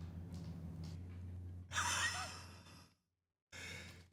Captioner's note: chuckles